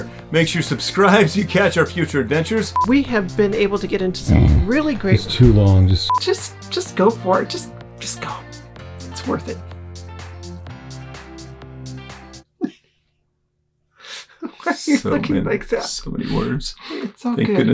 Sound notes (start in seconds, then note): 4.2 snores; 10.6 bright upbeat music; 12.6 laughs